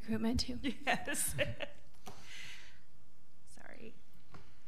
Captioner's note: laughing